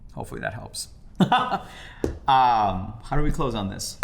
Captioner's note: laughs